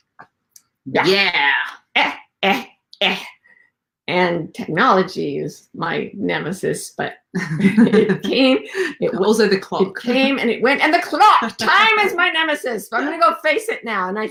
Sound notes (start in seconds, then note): 7.4 both laugh